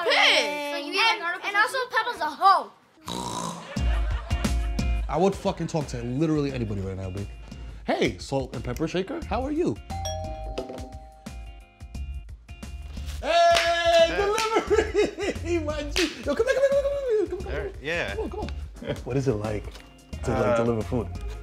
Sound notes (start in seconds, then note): 3.0 snort; 9.9 doorbell rings; 13.5 laughing